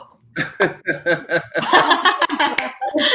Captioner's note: laughing